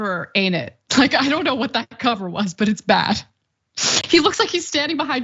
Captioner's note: laugh